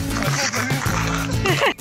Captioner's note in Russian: смех